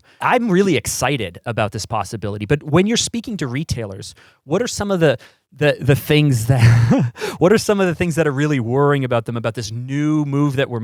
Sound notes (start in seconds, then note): 6.5 laughs